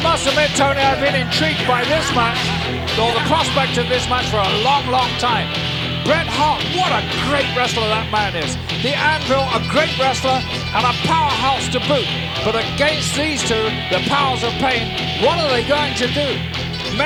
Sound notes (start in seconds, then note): 0.0 Jim chuckling